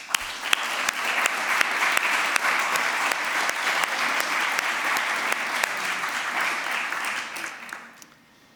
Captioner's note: applause